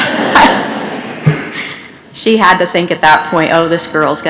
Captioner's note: laughter